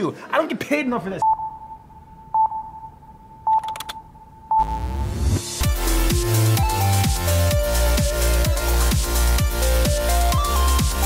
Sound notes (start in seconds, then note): 1.2 beep; 3.4 beep; 3.5 keyboard typing; 4.6 upbeat electronic music